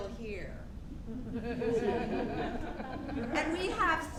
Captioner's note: audience laughing